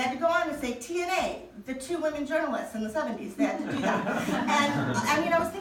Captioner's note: audience laughing